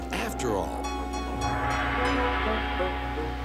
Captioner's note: clang clang clang